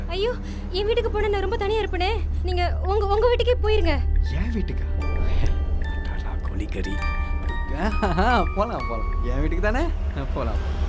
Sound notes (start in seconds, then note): 4.3 whispering